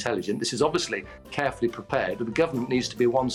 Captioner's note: spittle